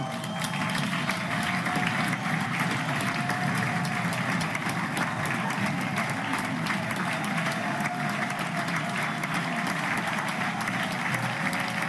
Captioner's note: loud applause